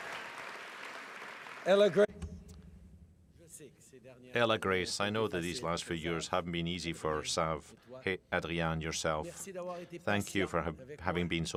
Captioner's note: cheering and applause